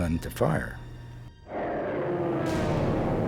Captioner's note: plane engines roaring